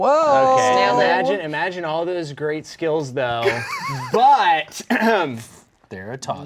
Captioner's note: clears throat